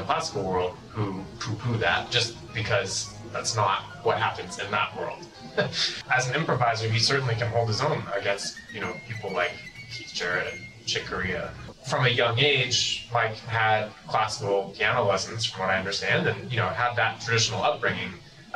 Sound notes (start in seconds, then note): 5.3 laughs